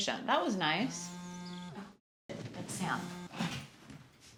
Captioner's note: phone buzzing